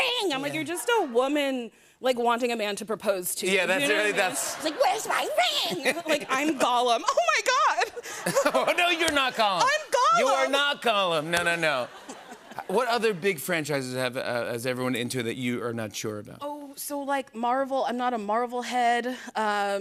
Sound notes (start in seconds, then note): 3.9 laughter; 7.7 laughter